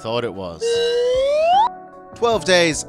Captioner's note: comedic slide whistle